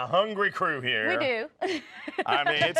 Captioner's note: laughs